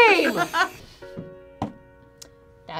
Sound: both laugh; side thumps

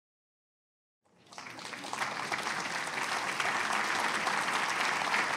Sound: applause

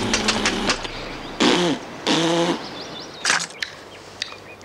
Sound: man spits

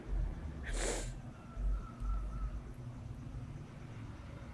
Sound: sniffling

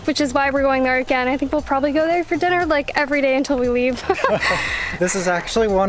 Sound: laughter

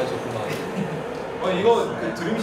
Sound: tee hee

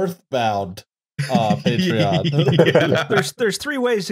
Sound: laughter

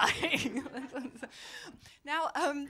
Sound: laughter

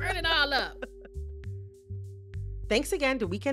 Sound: laughter

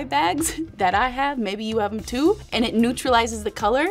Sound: chuckling

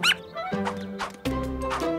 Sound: squeaking

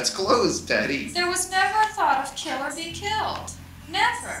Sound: voiceover

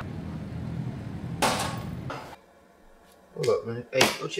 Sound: clank at window

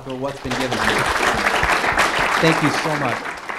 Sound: audience applauding

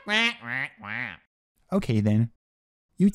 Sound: contravening squawks

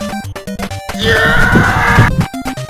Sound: screaming

